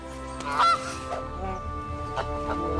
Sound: honks gooseily

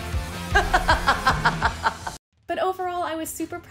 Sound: maniacal laughter

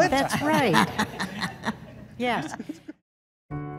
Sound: laughing

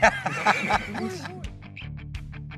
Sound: laughing

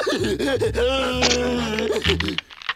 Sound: dopey laughing; cracking

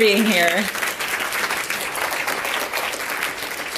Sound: applause

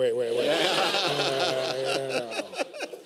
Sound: laughter

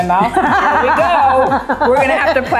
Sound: laughing

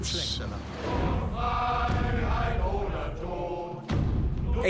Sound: in German

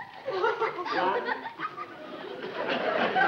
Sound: audience laughs

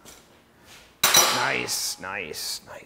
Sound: metal banging

